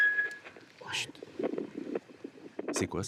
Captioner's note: heartbeats